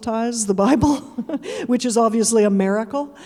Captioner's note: chuckling; audience chuckling